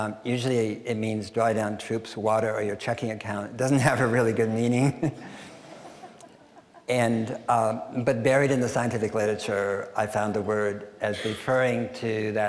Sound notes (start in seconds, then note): 5.2 audience chuckling; 5.5 laughing